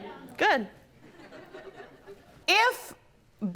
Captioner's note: scattered laughter